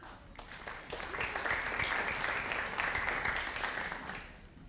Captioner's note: audience applauding